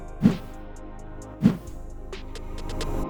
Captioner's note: air whooshing